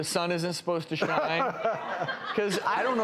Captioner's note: laughing